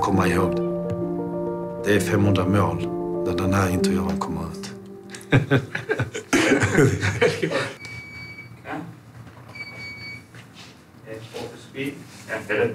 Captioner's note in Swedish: skrattar